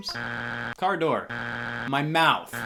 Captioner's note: buzzer beeps